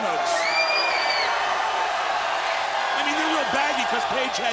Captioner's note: crowd cheering